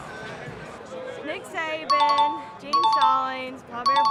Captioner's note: chime dings